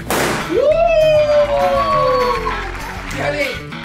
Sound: applaud, applaud

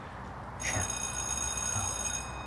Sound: school bell rings

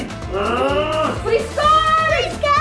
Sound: dad grunts

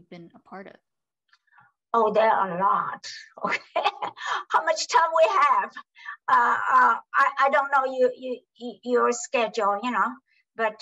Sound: laughs

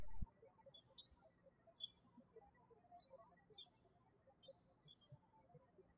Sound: birds chirping

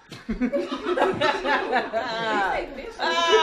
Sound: laughing

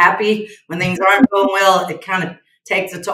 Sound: laughs

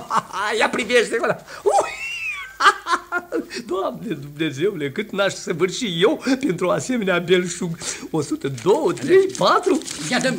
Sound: laughs

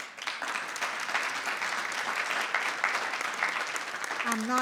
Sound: audience clapping

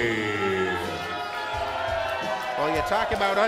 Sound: crowd boos

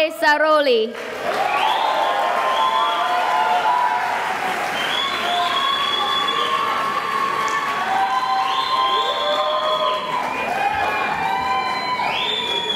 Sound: cheering and applause

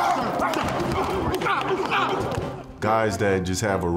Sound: players grunting

